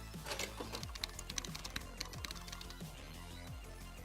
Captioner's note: keyboard clicks